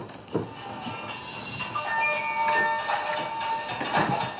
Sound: phone starts ringing

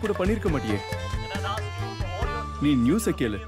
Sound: news on TV

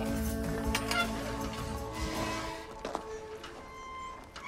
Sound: hinges squealing

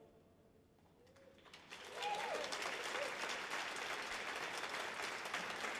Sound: audience applauds

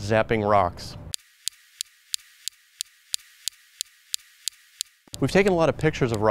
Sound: laser zapping

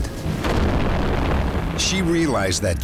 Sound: boom

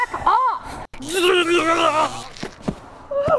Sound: taser buzzes, groans; shrill gasping

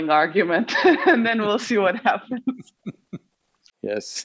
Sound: laughs; both laugh

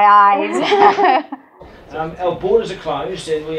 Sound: laughing

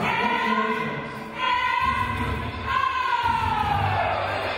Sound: crowd cheering

